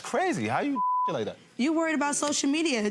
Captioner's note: beeps